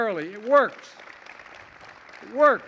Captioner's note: applause